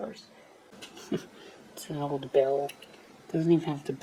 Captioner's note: chuckles